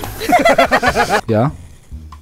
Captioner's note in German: Lachen